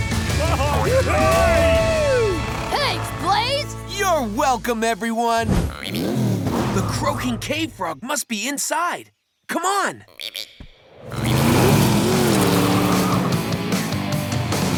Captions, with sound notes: [cheering] -Thanks, Blaze. -You're welcome, everyone. -[frog] Ribbit! The croaking cave frog must be inside. -Come on. -[frog] Ribbit ribbit.